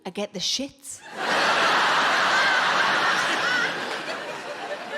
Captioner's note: audience laughing